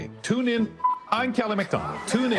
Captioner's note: attendees laughing